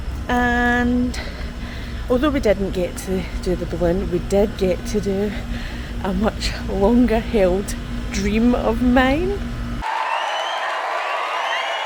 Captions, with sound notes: and although we didn't get to do the balloon we did get to do a much longer held dream of mine (Applause)